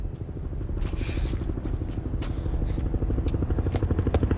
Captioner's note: helicopter approaching